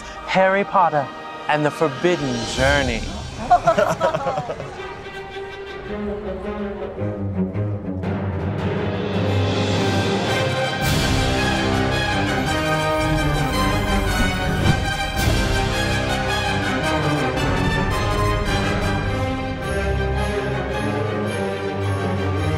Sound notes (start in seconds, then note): 3.0 laugh; 3.6 dramatic music; 10.7 dramatic music continues; 18.7 dramatic music continues